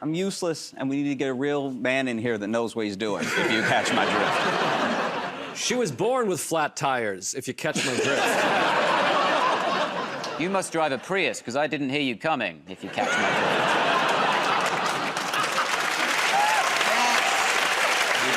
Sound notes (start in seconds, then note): 7.7 laughter; 12.9 laughter; 16.1 cheering and applause